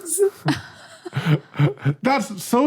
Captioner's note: guessers crack up